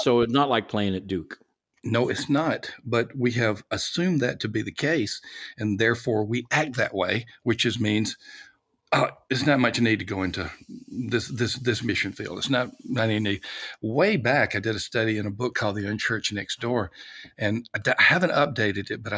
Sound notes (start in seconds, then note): 9.0 coughing